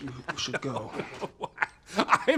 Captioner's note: man laughing